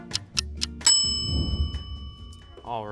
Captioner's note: bell dings